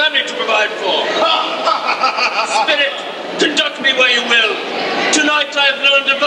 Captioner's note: laughs